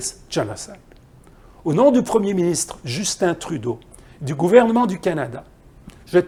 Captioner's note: French